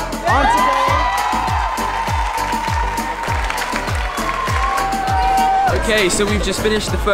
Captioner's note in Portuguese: Gritos